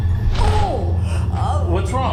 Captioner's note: ominous music; groans